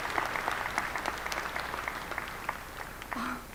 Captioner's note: applause